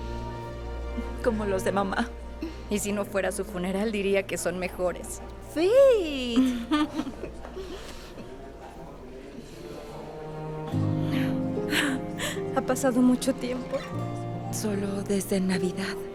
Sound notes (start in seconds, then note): 6.3 Faith ríe; 11.0 Resoplido